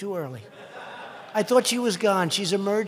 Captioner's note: laughter